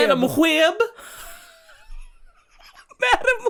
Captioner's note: giggling